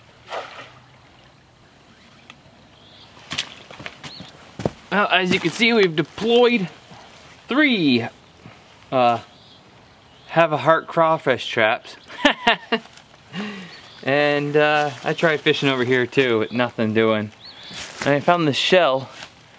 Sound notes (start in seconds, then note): 12.0 laughs